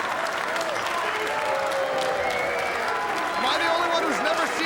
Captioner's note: crowd cheering